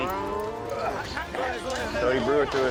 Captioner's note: overlapping chatter